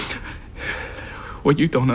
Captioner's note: sniffling